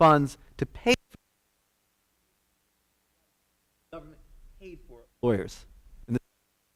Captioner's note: audio Cutting Out